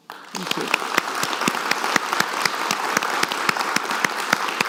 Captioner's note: audience claps